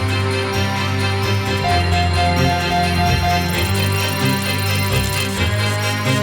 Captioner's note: intense music; machinery beeps